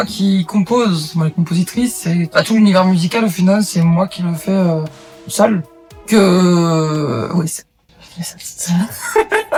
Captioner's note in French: Rires